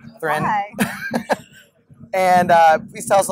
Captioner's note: laughs